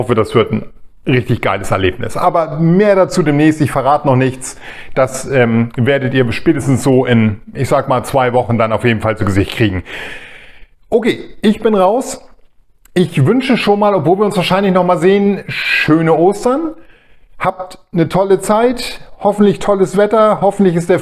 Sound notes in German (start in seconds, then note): 9.8 japst